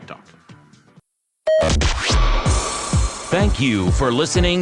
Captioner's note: beep